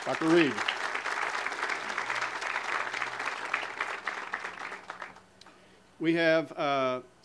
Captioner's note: audience applause